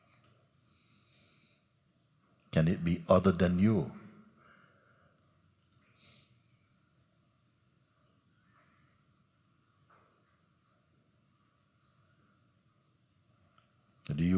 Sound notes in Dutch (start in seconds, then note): 7.9 stilte